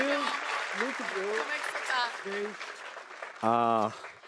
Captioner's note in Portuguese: aplausos